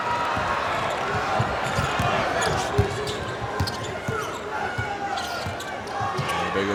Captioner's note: crowd cheers